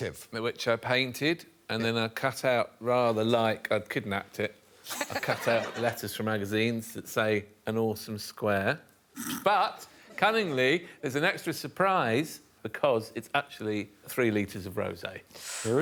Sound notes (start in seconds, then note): 9.2 Alex snickers